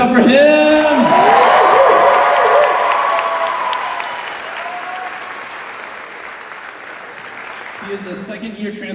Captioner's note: cheers